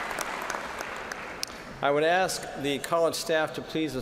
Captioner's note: cheers and applause